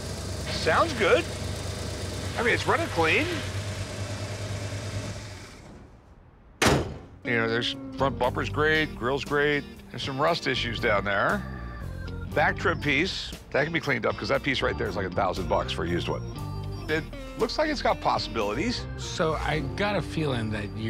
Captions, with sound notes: - Sounds good. I mean, it's running clean. [engine shuts down] You know, this front bumper's great, grill's great. Has some rust issues down there. Back trunk piece, that could be cleaned up, 'cause that piece right there is like 1,000 bucks for a used one. It looks like it's got possibilities. - So I got a feeling that you're just